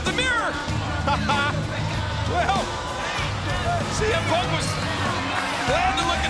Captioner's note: laugh